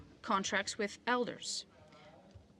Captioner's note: speaking in French